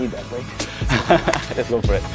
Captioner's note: laughs